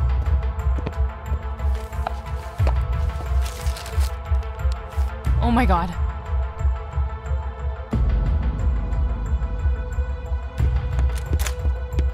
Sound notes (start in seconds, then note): 1.7 envelope opening; 11.0 door opens